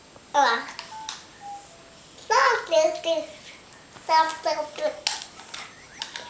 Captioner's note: toddler babble